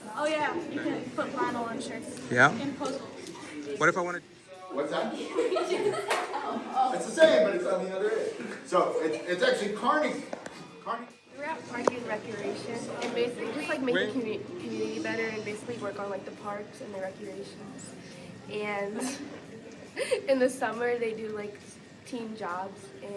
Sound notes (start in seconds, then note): 5.0 students giggling